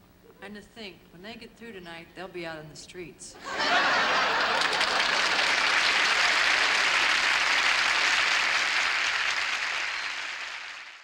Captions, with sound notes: And to think, when they get through tonight they'll be out in the streets. [ Laughter ] [ Applause ]